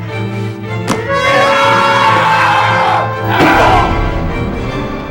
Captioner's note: screams